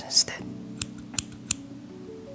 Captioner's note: snip snip snip